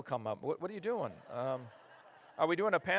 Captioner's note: laughter